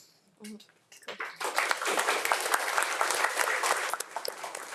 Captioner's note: audience applauds